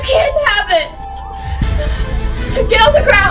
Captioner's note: police sirens